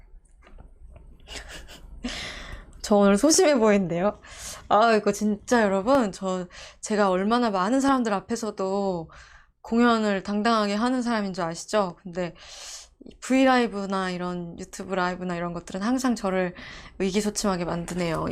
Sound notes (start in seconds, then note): 4.1 laughing